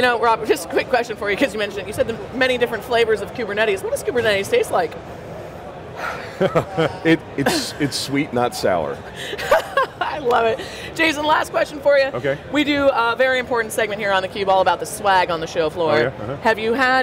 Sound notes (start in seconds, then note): 6.0 laughs; 9.3 laughs